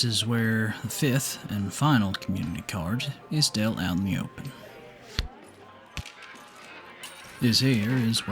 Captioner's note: card being dealt